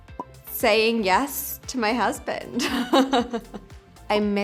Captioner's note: Lily laughs